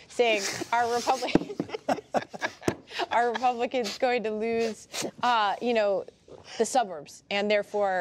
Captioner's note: laughter